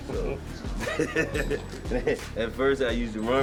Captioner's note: laughs